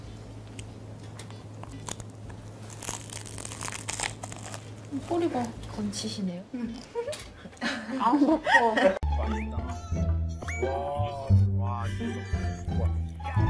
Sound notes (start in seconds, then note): 1.6 Crunch